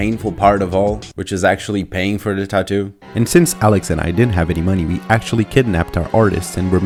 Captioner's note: fast narration